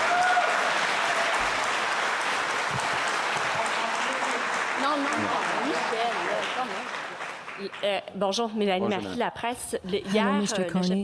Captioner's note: applause